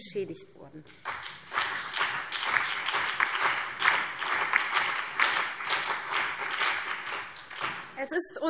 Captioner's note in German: Allgemeiner Beifall